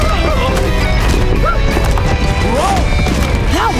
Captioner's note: shrieking